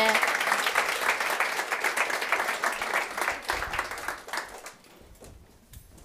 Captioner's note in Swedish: applåder